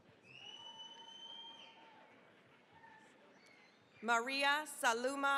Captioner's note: cheering, applause